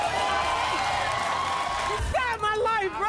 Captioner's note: crowd cheering